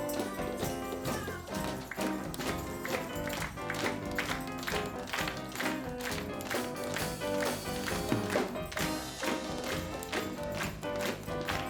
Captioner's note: rhythmic clapping